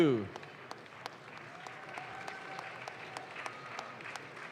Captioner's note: audience claps